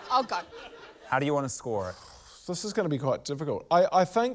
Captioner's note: blows air